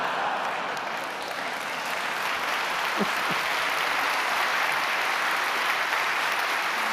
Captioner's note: applauding